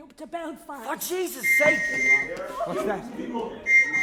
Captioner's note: whistle